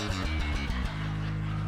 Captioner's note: laughs